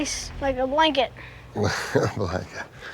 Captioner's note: chuckling